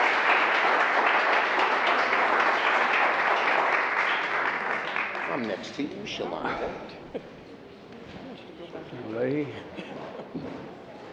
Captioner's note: applause